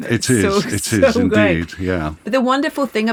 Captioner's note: laughs